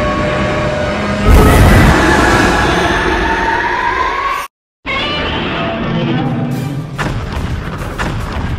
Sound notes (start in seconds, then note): 1.2 Keizer Ghidorah roaring